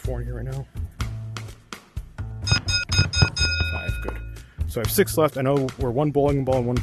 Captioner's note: ding*ding*ding*ding*ding